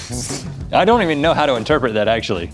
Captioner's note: blows out and sputters